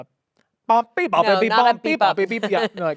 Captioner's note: imitates playful music